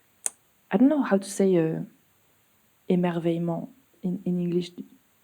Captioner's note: speaks French